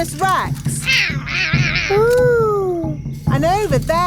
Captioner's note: roaring